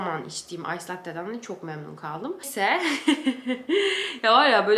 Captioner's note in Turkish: kahkaha